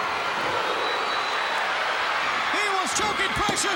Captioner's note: crowd cheering